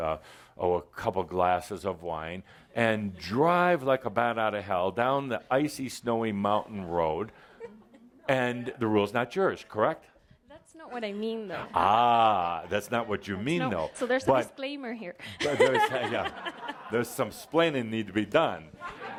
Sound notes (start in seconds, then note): 15.3 laughter; 18.6 laughter